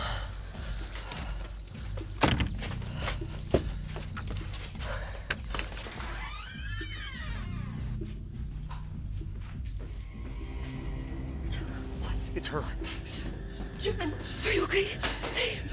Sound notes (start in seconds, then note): 5.3 door squeaking